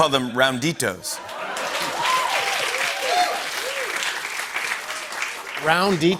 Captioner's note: laughter and applause